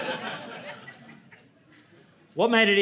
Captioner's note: audience laughing